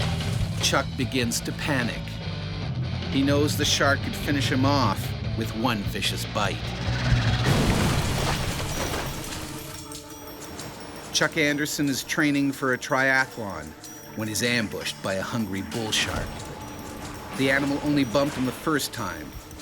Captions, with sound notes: - [Voiceover] Chuck begins to panic. He knows the shark could finish him off with one vicious bite. (thump) Chuck Anderson is training for a triathlon when he's ambushed by a hungry bull shark. The animal only bumped him the first time,